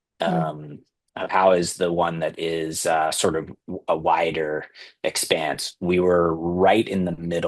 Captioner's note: clears throat